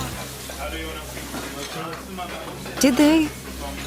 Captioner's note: restaurant noise